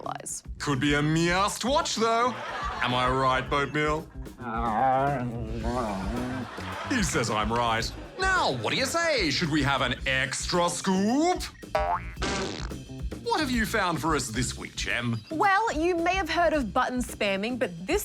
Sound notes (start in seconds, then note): 1.9 laughter; 4.4 grumbles